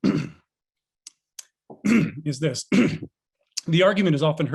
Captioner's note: clears throat